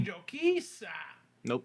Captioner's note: speaking Spanish